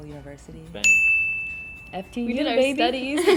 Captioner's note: bell chimes